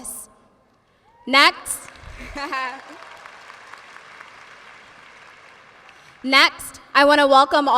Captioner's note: audience applauds